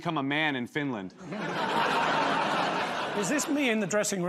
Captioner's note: laughter